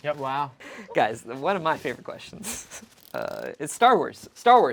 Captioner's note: laughs